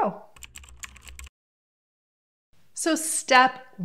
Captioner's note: typing